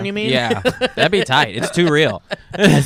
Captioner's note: laughing